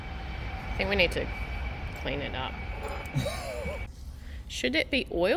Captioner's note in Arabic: يضحك